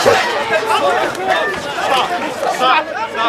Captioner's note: crowd clamoring